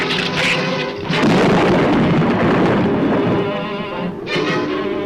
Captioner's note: thunder claps; ominous music continues